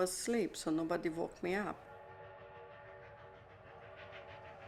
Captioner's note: train whistle blowing